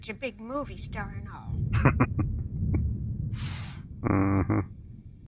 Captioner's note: chuckling